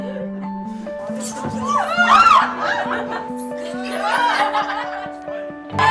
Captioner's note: laughter; screams and laughter